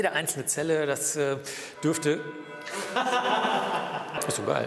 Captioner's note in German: Glocken läuten